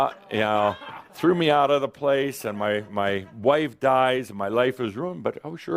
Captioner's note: some laughter